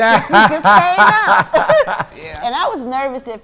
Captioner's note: Cam laughs